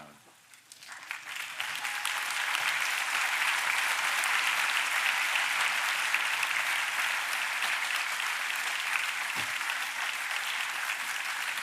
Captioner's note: applause